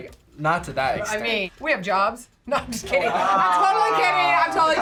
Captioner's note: laughs